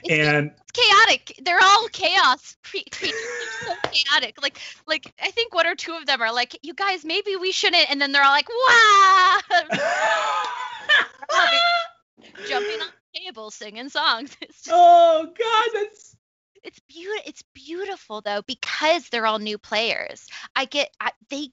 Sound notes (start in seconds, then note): 9.6 laughs; 9.7 imitates yelling